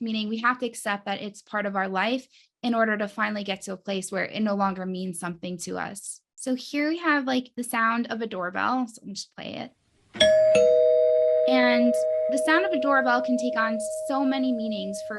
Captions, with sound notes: meaning we have to accept that it's part of our life in order to finally get to a place where it no longer means something to us. So here we have like the sound of a doorbell, so let me just play it. (doorbell ringing) And the sound of a doorbell can take on so many meanings